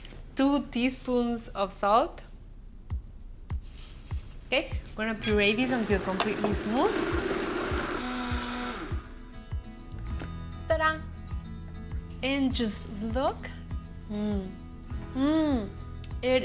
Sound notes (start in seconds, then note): 5.6 whirring; 8.4 whirring stops